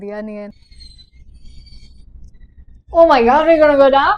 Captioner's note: creaking sound